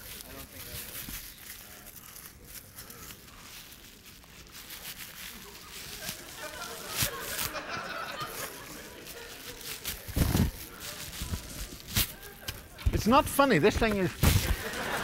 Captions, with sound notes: [laughter] It's not funny. This thing is-